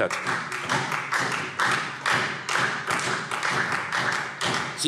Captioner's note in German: Beifall Freie Demokraten und vereinzelt SPD